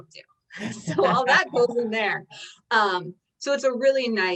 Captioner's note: chuckles